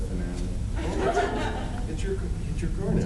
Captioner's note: laughs